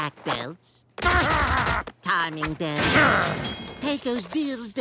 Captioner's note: muffled grunting